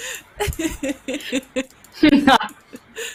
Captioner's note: laughing drowns out speaking; laughs